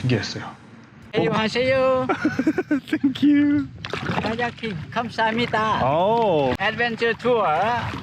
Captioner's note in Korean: 유창한 한국어